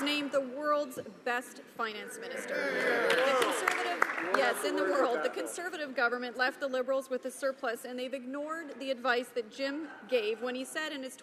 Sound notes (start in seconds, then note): 3.0 applause